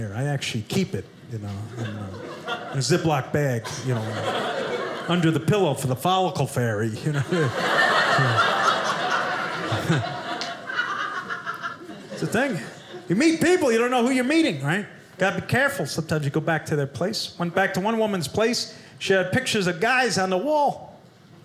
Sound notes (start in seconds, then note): 7.0 audience laughing